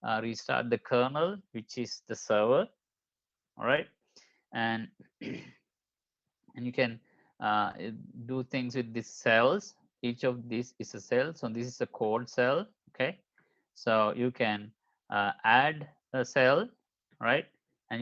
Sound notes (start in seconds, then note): 5.2 clears throat